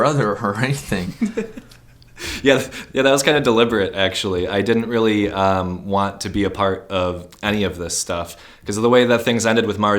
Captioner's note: laughs